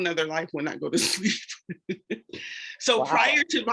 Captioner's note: laughs